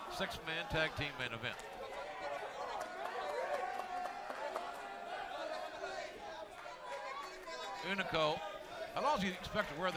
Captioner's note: crowd chatter